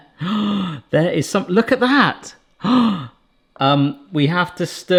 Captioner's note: gasps; gasps